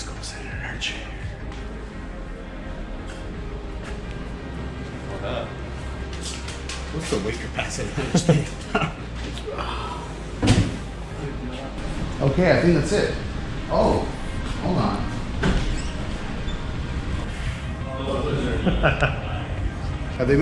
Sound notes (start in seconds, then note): 7.9 laughs; 18.4 laughs